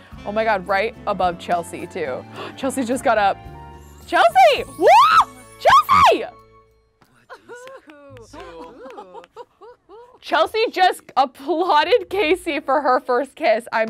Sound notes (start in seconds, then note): 4.6 shrieking; 7.4 clapping